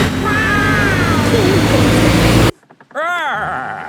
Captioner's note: laughing